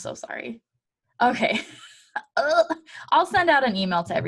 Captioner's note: embarrassed chuckle